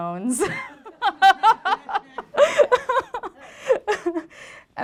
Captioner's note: laughter